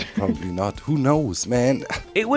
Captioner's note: laughs